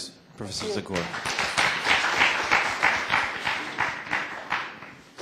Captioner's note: applause